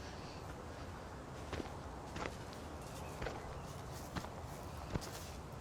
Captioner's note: leaves crunching